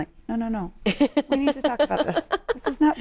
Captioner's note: laughs